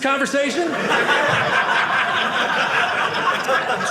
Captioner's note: audience laughing